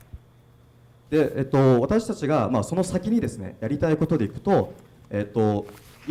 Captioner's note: speaking foreign language